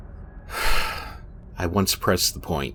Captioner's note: Martin sighs